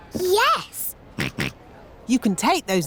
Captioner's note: snorts